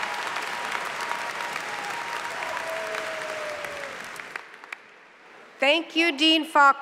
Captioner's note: applause